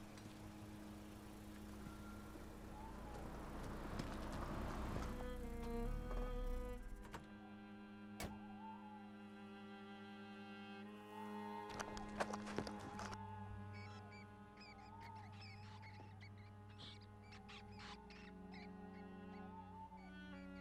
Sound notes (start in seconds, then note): 0.0 engine rumbling; 0.1 pensive music; 13.8 pensive music; 15.0 rats squeaking